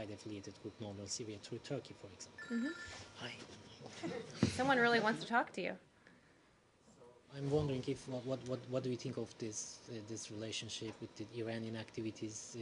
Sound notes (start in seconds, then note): 3.9 cell phone rings